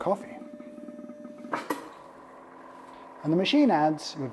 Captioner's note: machine whirring